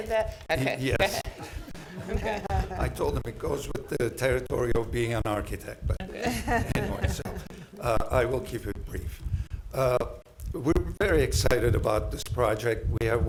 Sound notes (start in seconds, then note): 0.9 chuckling; 6.1 laughter